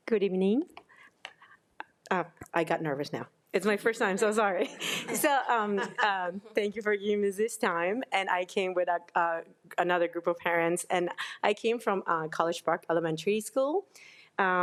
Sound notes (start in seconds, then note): 4.6 crowd laughing